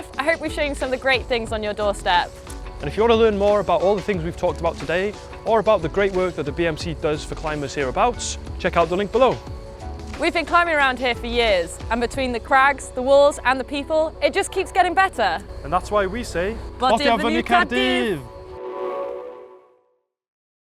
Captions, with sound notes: I hope we’ve show you some of the great things on your doorstep. And if you want to learn more about all the things we've talked about today or about the great work that the BMC does for climbers hereabouts, check out the link below. We've been climbing around here for years and between the crags, the walls and the people, it just keeps getting better. And that's why we say [Welsh] Thumbs up for Cardiff!